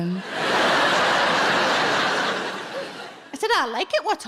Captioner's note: audience laughing